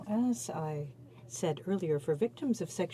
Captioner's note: speaking French